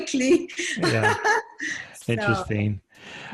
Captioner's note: laughing